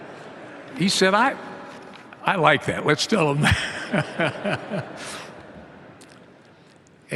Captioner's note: laughter